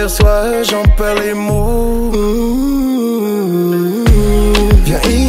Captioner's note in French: Humhumhumhum